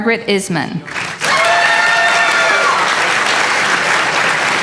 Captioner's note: applause